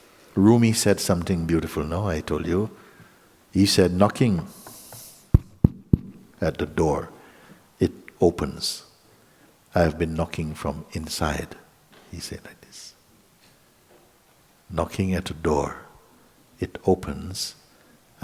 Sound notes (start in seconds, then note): 5.3 making knocking sound